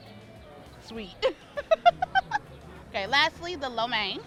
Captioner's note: laughs